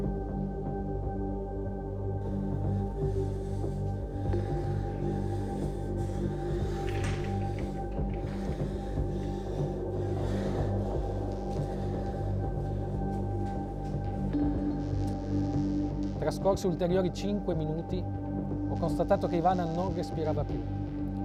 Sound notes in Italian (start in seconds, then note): 0.1 musica carica di suspense; 4.5 respira affannosamente